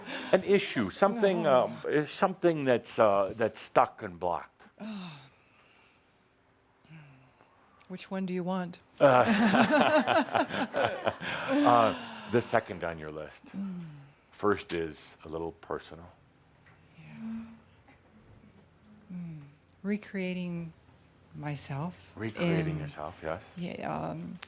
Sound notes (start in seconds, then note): 9.0 they both laugh